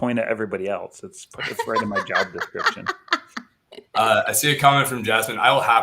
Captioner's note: laughter